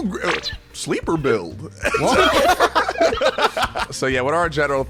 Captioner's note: everyone laughing